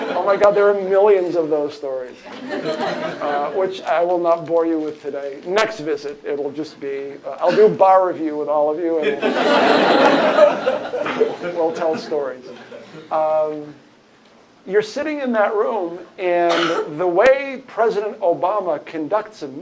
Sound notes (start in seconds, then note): 9.0 laughter